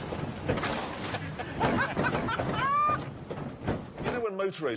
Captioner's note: clattering and laughter